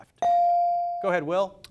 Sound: device dings

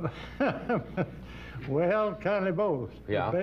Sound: laughs

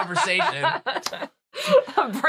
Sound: laughing

